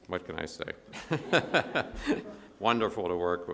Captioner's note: audience laughs